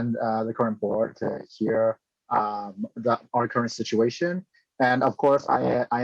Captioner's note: speaking chinese